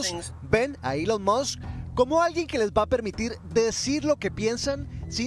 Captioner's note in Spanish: HABLA EN INGLéS